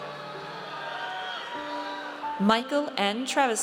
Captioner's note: audience cheers